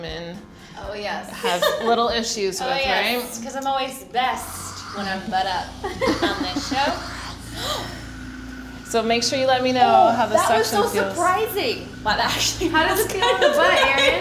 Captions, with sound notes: that you have little issues with, right? I'm always best when I'm butt up. on this show. (GASPPP) So make sure you let me know how the suction feels. That was surprising! That actually feels kinda fuhhnny